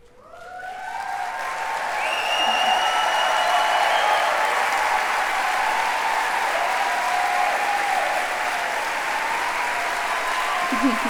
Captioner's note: applause